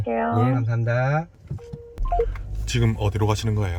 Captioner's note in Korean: 통화 종료음